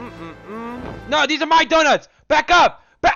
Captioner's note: yells